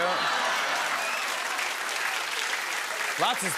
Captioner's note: laughter and applause